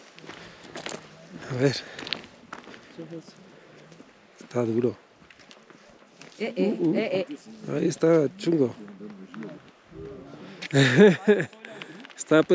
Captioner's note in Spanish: risas